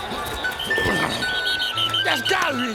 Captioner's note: whistles blow